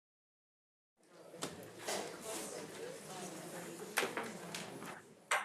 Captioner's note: attendees chattering